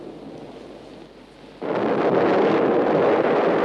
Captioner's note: lightning